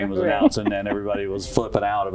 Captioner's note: laugh